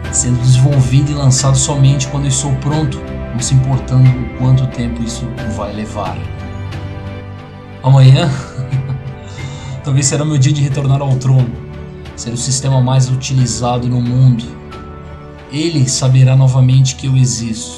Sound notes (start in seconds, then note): 8.3 laughs